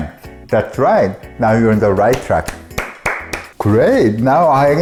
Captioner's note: clapping